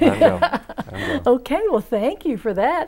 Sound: laughing

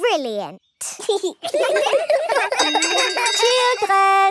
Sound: laughter; giggling

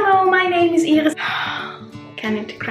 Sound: sighs

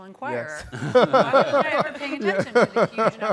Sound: all laugh

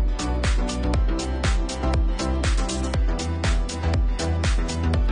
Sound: none

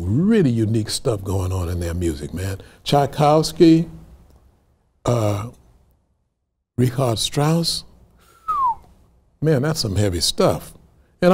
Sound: whistles

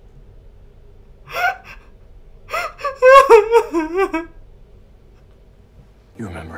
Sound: sobbing theatrically

